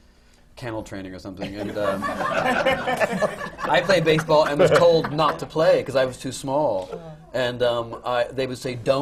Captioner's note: laughter